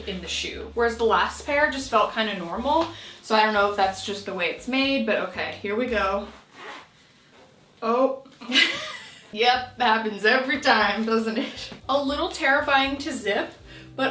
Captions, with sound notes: in the shoe. Whereas the last pair just felt kinda normal. So I don't know if that's just the way it's made, but okay, here we go. (zipper whooshing) Oh, (laughing) yep, that happens every time, doesn't it? A little terrifying to zip,